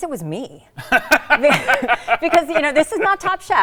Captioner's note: both laughing